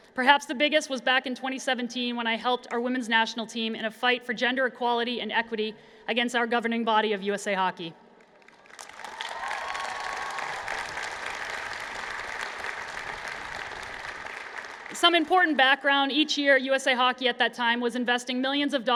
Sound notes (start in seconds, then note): 8.4 cheers and Applause